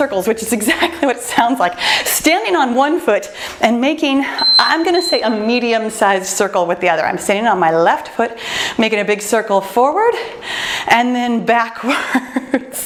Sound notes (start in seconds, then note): 4.2 timer beeps; 11.6 laughs